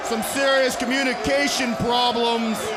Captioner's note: crowd chatter